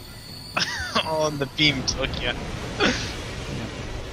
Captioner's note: laughing